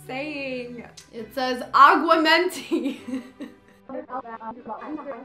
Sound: laughter

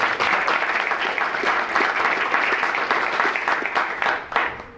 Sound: audience clapping

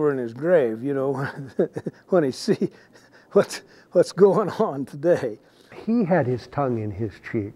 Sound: laughing

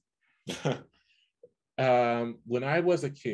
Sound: chuckles

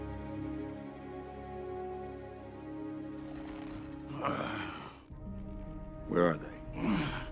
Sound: groans; groaning

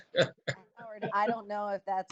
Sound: chuckling

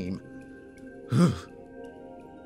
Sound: sigh

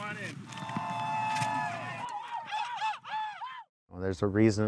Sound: boys cheering

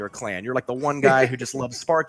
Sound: laughs

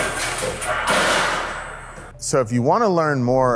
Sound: blade clacks; metal sheet clangs

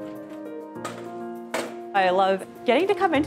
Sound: cabinet door clinks

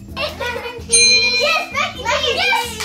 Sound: ding

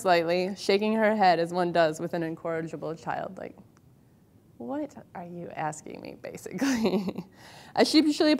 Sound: laughs

